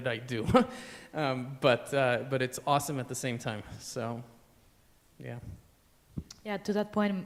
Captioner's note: laughter